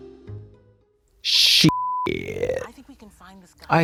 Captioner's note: beep